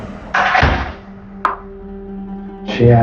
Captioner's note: door closes